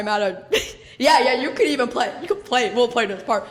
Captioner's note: laughs